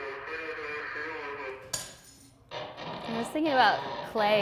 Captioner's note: tile shattering